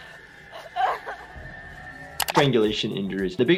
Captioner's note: whimpering